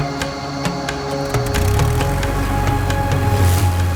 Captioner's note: propeller buzzing